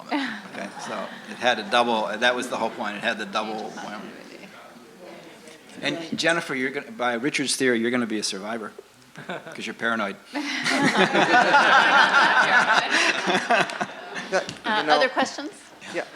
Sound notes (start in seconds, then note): 0.2 laughs; 10.6 laughter